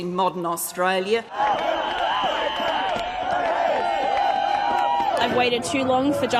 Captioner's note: crowd shouting